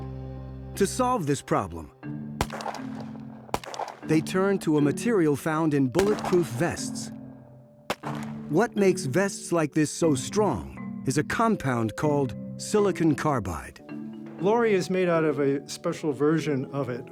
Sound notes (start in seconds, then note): 2.4 gun firing; 7.8 gun fires